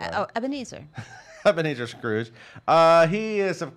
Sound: laughs

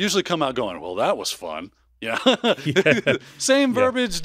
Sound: chuckles

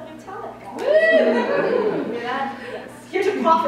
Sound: woo! and laughter from the audience

